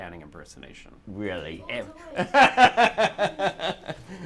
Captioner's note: laughter